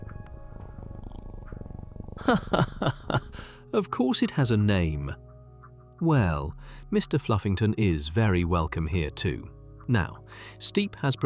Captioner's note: laughs